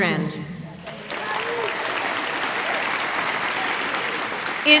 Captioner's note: applause